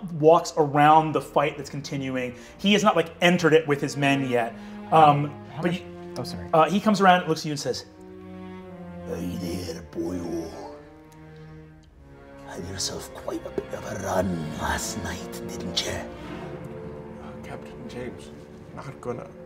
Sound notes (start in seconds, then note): 10.6 foreboding music continues; 17.3 quietly